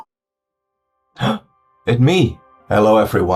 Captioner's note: gasps